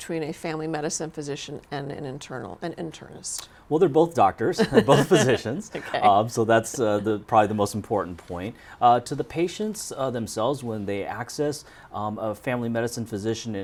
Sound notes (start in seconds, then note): 4.6 laughs